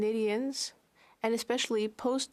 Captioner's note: speaking French